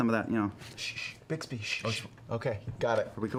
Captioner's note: shushes